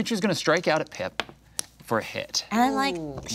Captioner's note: dice clattering